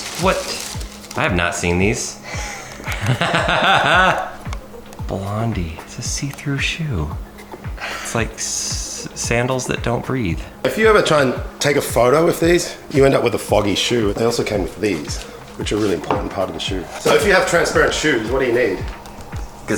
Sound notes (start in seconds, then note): 2.2 laughing